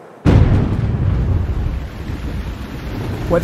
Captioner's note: thunder